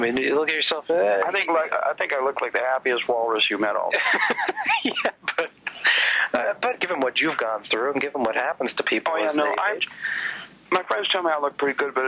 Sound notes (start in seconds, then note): 3.9 laughs